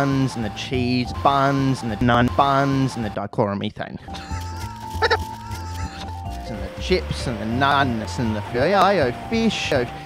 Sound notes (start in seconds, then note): 4.0 weird laugh